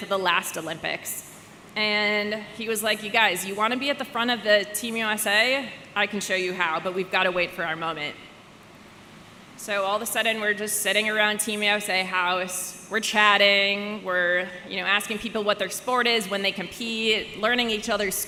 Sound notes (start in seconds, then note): none